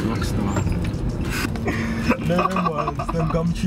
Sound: laughing

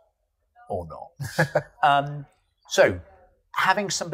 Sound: laughs

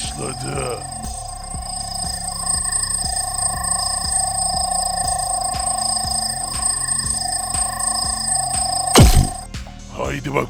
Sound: machine voice

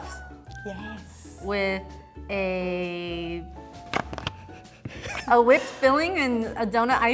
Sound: snifflng

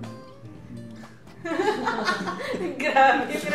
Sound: laughs

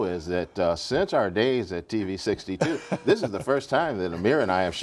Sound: laughter

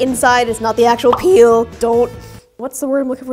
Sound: bubble pops

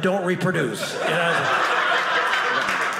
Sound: audience laughing; audience applauding

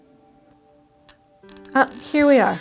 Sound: Acupoint device beeping

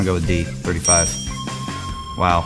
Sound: upbeat music; bell ringing

